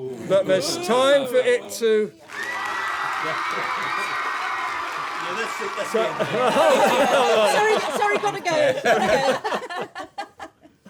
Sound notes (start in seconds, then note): 2.2 applause; 6.0 laughter